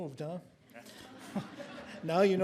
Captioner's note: audience laughing